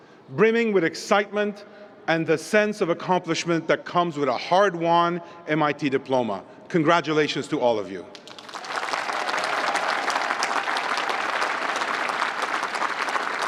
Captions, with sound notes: brimming with excitement and the sense of accomplishment that comes with a hard-won MIT diploma. Congratulations to all of you. [APPLAUSE]